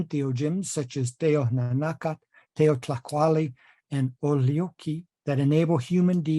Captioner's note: speaking nahuatl